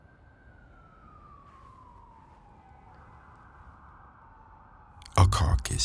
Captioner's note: siren blaring